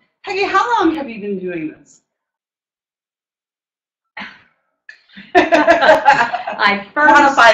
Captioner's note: laughter